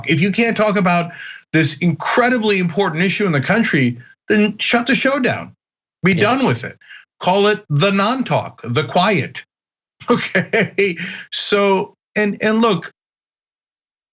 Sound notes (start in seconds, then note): 10.0 laugh